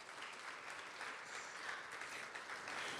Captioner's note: applause